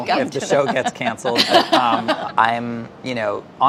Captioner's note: laughs